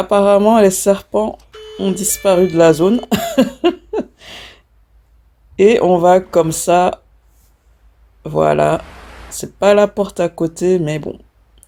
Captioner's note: laughs